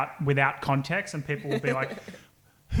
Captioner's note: laughing